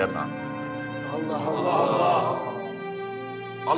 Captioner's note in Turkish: Hep bir ağızdan